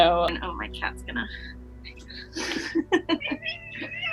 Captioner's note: laughing